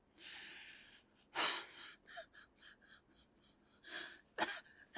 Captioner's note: sighs and weeps